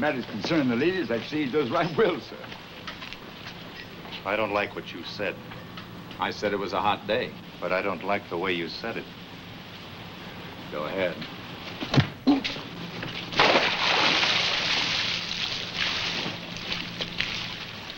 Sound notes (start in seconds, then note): 11.9 punch landing; 13.2 water splashing